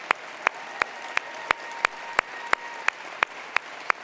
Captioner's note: cheering; applause